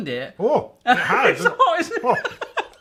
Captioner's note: exclaiming